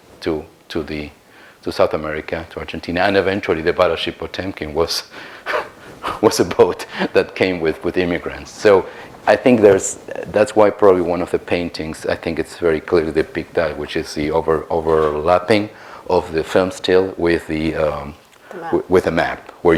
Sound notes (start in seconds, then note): 6.7 laughs